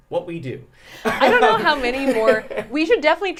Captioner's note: laughs